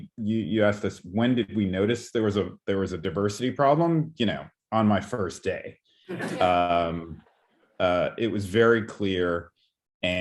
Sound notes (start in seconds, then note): 6.1 chuckles